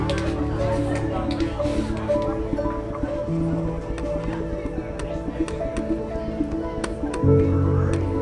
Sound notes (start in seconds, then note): 0.5 paint can shaking